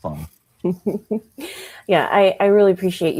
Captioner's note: chuckles